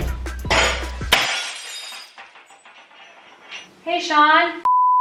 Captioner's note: shattering sound